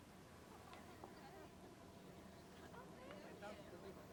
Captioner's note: crowd chatting